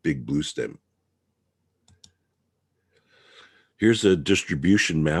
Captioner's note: mouse clicking